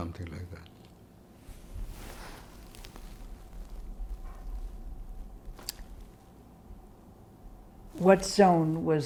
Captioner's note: pauses 6 seconds